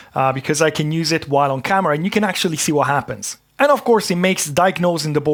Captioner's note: none